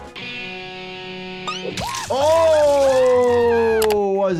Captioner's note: guitar humming; Cuddles screaming